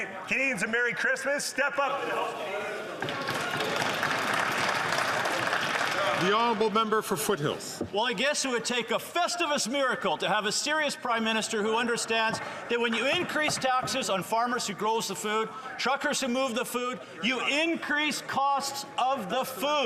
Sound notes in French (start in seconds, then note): 10.1 voix de l'interprète